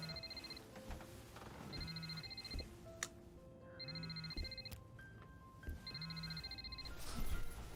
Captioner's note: phone ringing